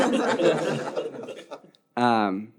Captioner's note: audience laughing